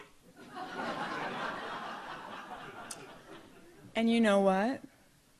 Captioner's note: audience laughs